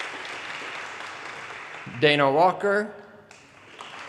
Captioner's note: audience applause; audience applause